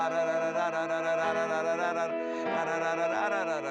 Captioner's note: vocalizing